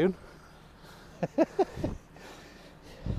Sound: chuckles

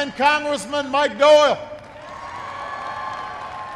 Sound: applause

